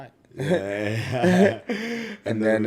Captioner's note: laughs